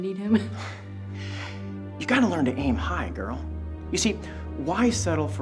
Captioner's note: chuckles; breath